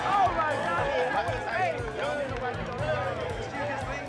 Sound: indistinct chatter

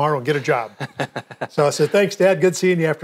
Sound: laughs

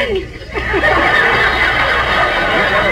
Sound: audience laughs

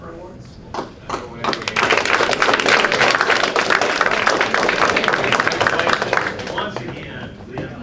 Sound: applause

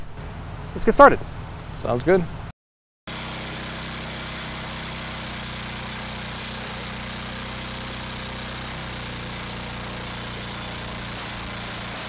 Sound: engine running

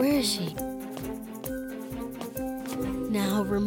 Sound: padded footsteps

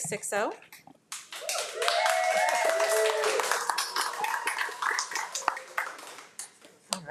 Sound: audience cheering and applauding

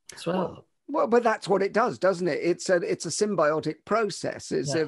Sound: none

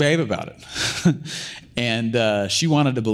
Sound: laughs

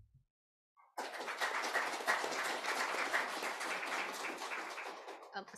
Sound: applause

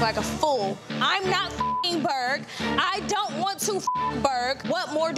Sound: beep

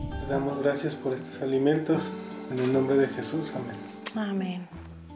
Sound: speaking in Spanish

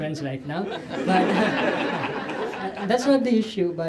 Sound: laughter

